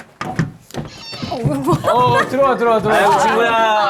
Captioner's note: struggling